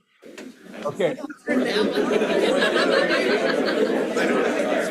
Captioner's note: chatter